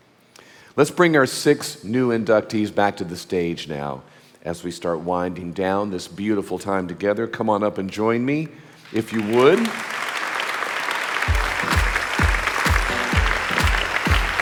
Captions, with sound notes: Let's bring our six new inductees back to the stage now, as we start winding down this beautiful time together, come on up and join me, if you would. (audience applauding)